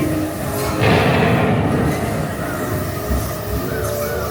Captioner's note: cannon blasts